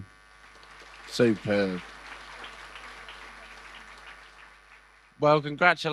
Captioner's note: audience applause